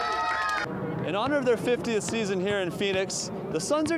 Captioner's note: cheering